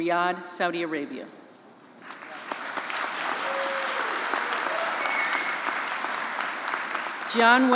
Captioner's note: applause